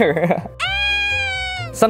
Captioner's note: gentle screaming